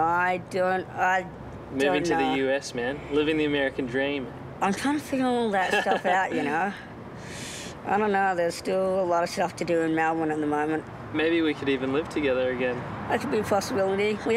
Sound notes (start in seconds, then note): 5.5 laughs